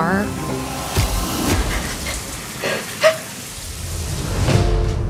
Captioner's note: shaky breaths